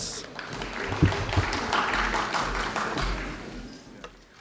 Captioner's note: audience clapping